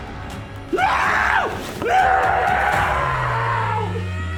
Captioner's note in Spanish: Rogers gritando